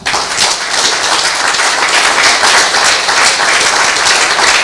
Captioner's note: audience clapping